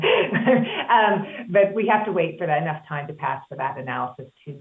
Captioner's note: laughs